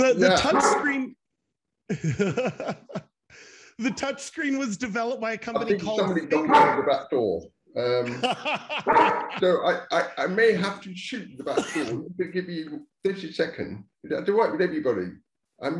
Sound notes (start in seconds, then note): 1.9 laughs; 7.9 laughing loudly; 8.8 dog barking